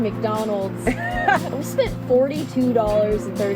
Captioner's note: laughs